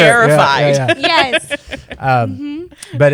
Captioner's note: laughter